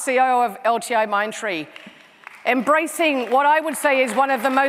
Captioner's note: applause